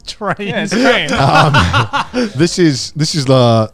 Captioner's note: laughs